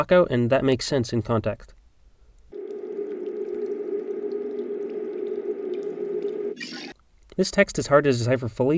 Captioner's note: audio from show